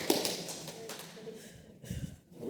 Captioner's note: applause sounds